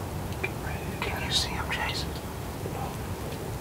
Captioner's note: whispering